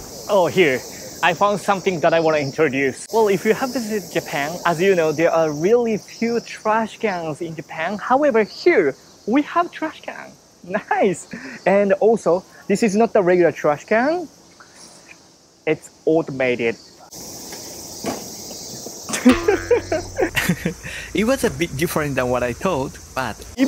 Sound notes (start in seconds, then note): 19.1 door clanks; 19.2 laughs; 20.8 chuckles